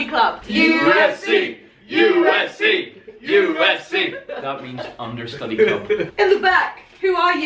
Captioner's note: chanting